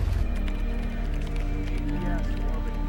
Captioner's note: phones ringing